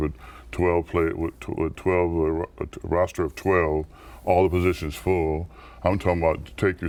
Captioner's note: stutters